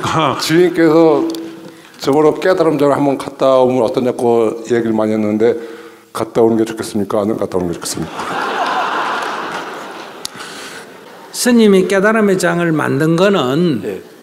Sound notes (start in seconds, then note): 8.0 audience Laughter